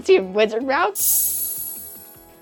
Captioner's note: magical chime